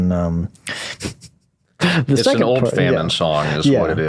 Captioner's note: laughing